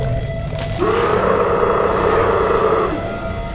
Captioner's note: cracking, squelching sounds; terrifying roar